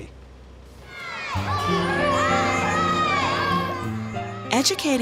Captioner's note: children yelling, laughing